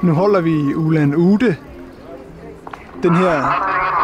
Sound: loudspeaker

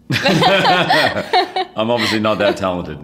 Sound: laughing

